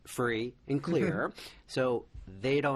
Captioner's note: laughs